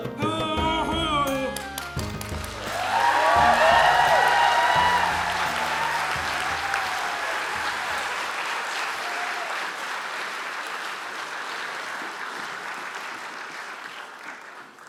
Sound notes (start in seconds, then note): 5.0 applause